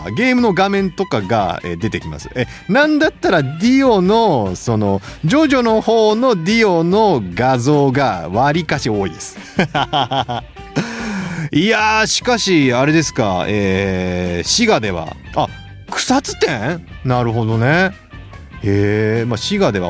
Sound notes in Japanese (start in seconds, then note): 9.3 笑い